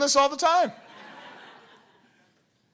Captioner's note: laughter